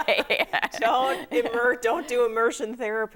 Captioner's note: laughing